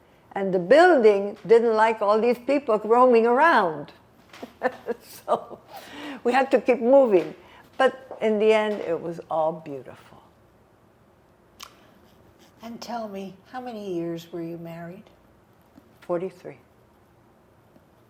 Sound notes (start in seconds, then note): 4.4 laughing